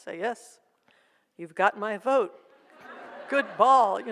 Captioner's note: audience laughs